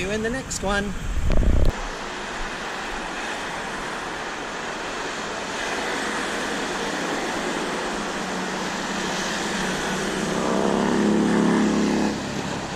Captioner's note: Traffic